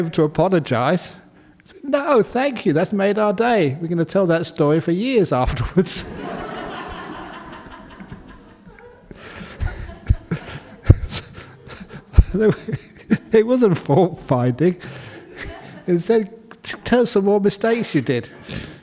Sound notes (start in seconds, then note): 8.1 laughter